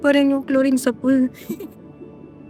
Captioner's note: chuckles